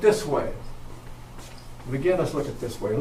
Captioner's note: none